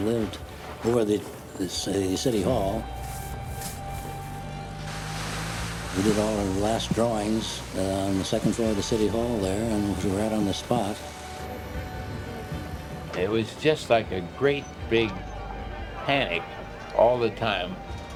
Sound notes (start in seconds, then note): 3.2 brooms swishing; 4.5 water spraying